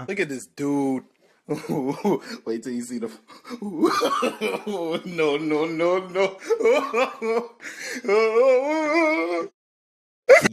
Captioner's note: laughing and weird mumbling